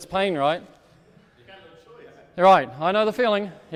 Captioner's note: speaks off microphone